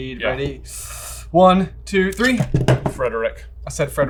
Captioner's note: boards clack